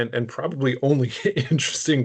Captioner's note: chuckling